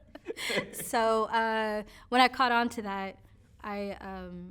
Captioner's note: both laughing